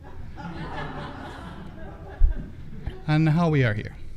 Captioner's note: audience laughing